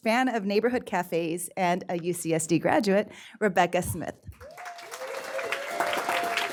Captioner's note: applause